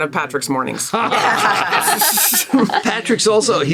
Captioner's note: laughter